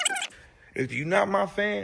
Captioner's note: bird noises